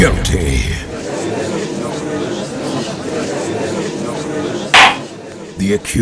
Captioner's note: gallery chattering